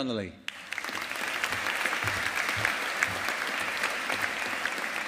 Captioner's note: audience applauding